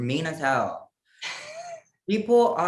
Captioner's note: laugh